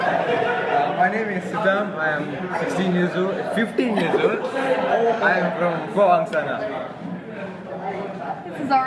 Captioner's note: laughter